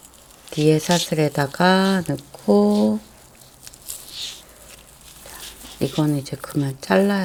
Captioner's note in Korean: 콧방귀